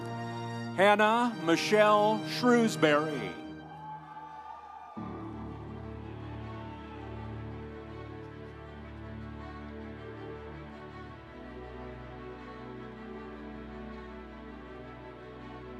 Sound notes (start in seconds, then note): 3.5 audience cheering; 4.2 instrumental music